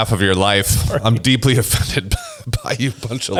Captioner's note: laughs